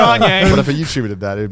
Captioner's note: laughs